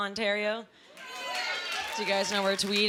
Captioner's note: sparse cheering